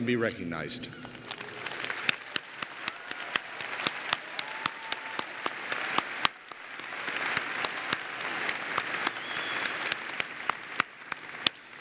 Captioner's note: applause